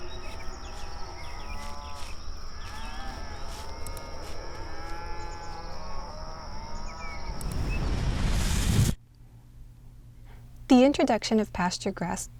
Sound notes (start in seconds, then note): 0.0 birds chirping; 0.0 cows moo; 0.0 birds chirping; 0.0 cows moo; 3.8 mouse clicks; 4.6 birds chirping; 4.6 cows moo; 7.3 explosion whooshes; 7.7 mouse click